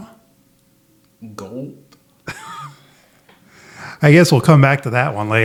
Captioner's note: laughs